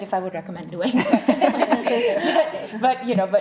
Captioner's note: laughing